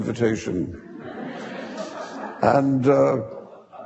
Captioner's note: audience laughing